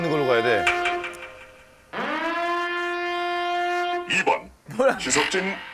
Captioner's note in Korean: 갑자기 울리는 사이렌 소리...?!